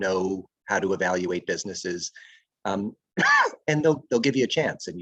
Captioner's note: coughs